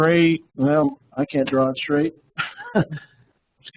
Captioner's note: laughs